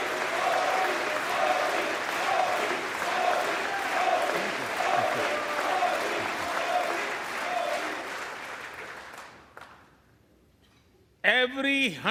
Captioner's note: applause